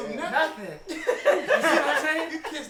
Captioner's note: everyone laughing